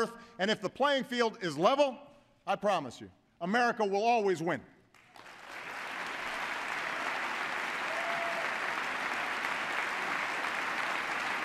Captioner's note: applause